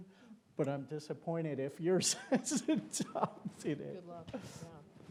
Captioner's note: laughs